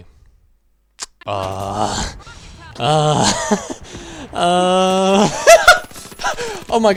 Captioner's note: series of grunting noises that sound more and more like moaning; increasing into a high pitched laughter